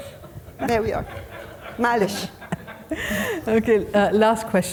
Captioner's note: attendees laughing; speaking foreign language